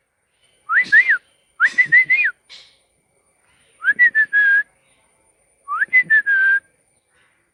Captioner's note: whistling